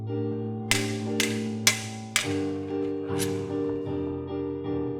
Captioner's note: swords clanking